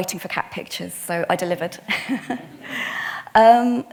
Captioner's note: attendees laughing; chuckles